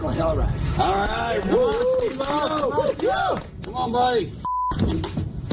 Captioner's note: everyone hyping him up